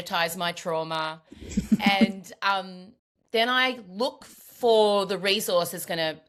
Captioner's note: laughs